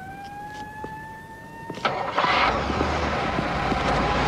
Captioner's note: siren fading away; engine starts